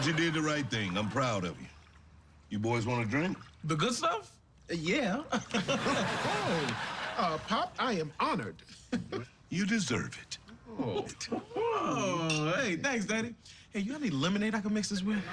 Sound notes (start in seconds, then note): 5.4 laughs; 11.3 both exclaiming